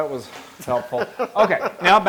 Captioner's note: laugh